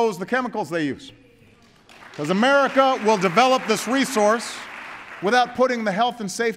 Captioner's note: applause